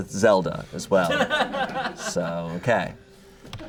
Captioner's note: audience laughing